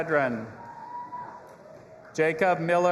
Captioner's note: audience applauding and cheering